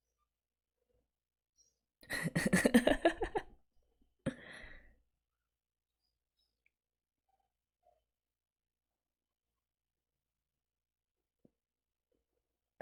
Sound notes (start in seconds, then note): 2.1 laughs